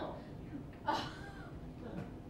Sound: laughter

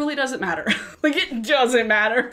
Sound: chuckles

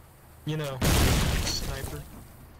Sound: boom

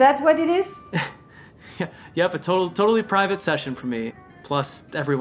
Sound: laughing weakly

